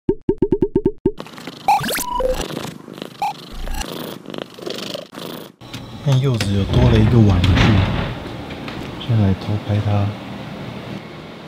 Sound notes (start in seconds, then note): 0.0 cat purrs in the background